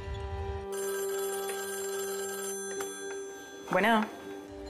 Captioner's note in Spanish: Suena el teléfono